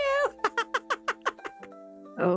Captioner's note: laughter